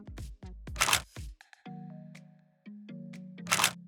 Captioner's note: camera clicks